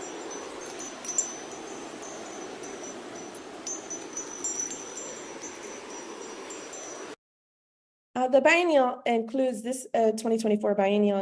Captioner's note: waterfall